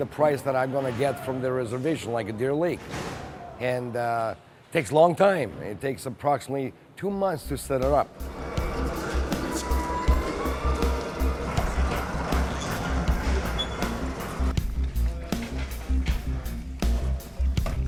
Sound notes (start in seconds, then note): 8.2 plane takes off; 8.2 suspenseful music